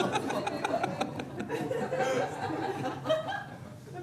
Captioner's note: audience laughing